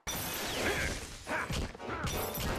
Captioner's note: grunting